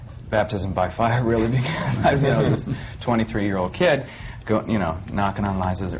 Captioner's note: he laughs